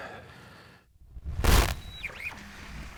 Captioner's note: static